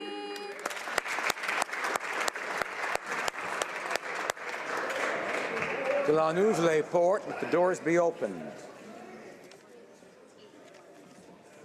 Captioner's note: speaking French